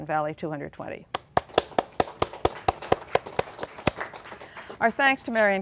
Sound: applause

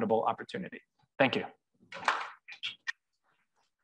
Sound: applause

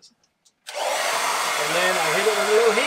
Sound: blow dryer blowing

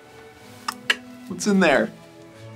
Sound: clicks tongue

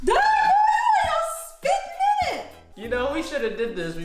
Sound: laughs; yelling

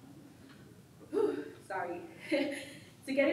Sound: exhales loudly

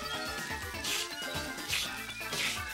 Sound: sniffs

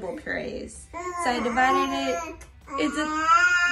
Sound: baby screams

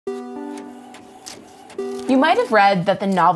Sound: electronic music; printer whirring

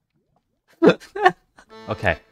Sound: laughs

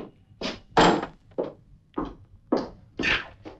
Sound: thud

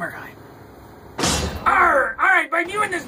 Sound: banging

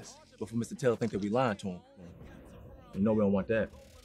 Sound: people chattering

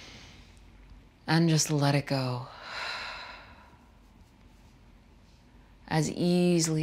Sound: exhaling deeply

